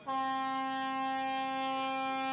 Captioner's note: nat of horn